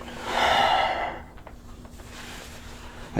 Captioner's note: sighs; neck cracks